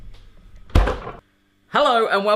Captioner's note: clunking